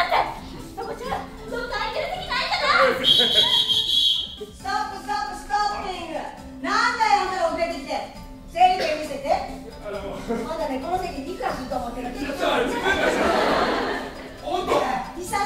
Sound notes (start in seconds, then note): 2.9 whistle blowing